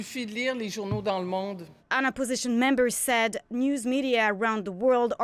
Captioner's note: speaking French